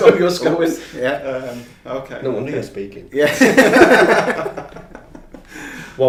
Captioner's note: laughing